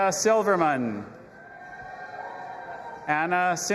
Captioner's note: audience applauding and cheering